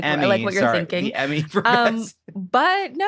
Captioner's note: laughs